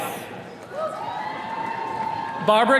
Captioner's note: attendees cheering